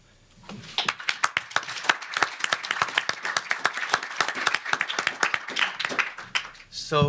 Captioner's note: applause